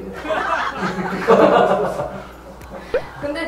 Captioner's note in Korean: 웃음